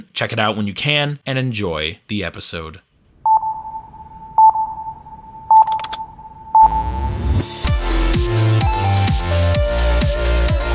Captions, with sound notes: Check it out when you can and enjoy the episode. (beeping) (techno music)